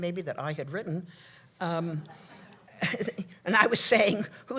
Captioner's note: laughter